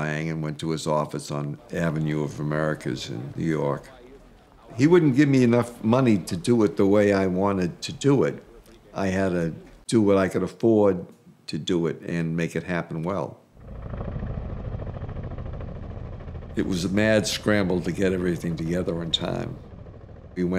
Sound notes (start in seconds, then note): 13.6 helicopter rumbling